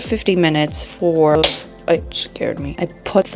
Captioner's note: pop